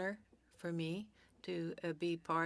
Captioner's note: speaking French